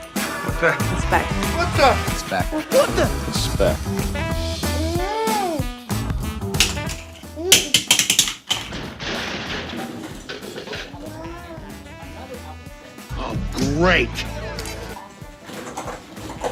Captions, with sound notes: Vrooom (toys falling) (crash sound) Whooooaaa "Oh great."